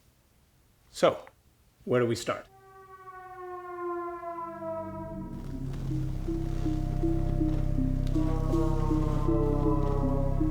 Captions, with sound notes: So, where do we start? [ EERIE SOUNDS ] [ RUMBLES ]